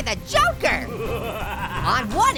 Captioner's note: Joker evilly laughing